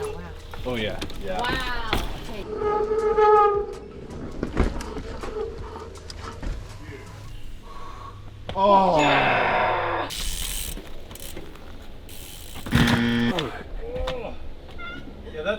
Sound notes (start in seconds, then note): 3.0 wheels screeching; 10.0 wheels whizzing; 12.6 bell buzzing; 12.8 wheels crashing